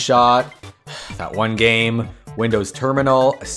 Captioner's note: sigh